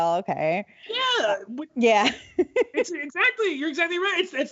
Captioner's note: laughs